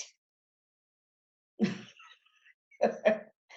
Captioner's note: laughs